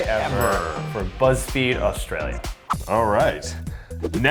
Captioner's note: bell rings